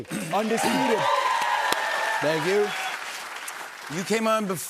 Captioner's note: cheers and applause